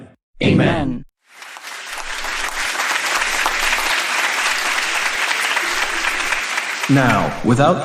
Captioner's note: applause